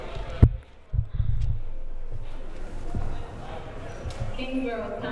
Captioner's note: crowd murmuring